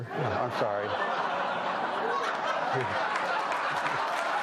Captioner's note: audience laughing; audience applauding